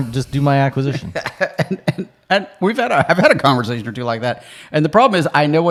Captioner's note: laughing